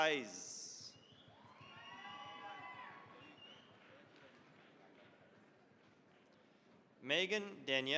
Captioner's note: cheering, applause